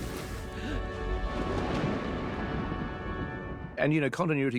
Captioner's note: thunder rumbling